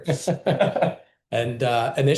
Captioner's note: laughter